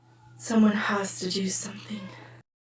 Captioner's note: whispers